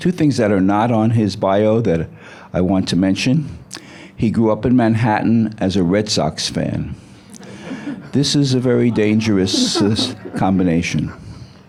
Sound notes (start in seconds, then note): 7.3 audience laughing